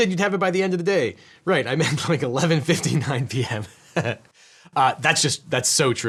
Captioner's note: laughs